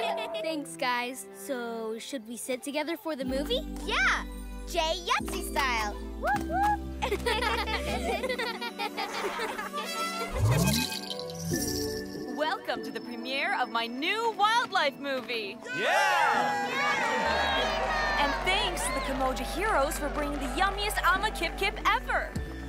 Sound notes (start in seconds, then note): 7.0 laughter; 9.9 trumpeting; 15.6 cheering